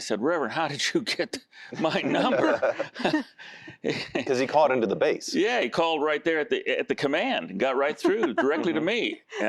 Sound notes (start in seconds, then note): 1.8 laughter